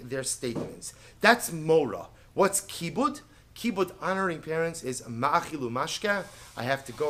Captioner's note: Hebrew